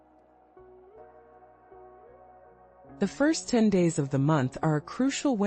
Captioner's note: pause